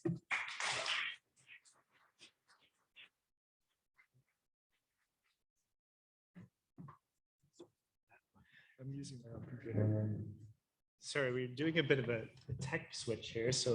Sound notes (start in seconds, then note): 0.2 audience applauding; 9.3 faintly speaking